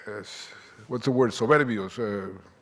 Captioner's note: speaking Spanish